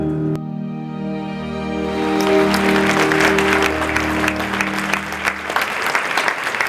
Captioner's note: applause